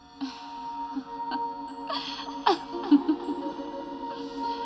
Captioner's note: laughter echoes